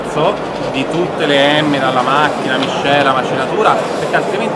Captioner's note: machine, blend, grinding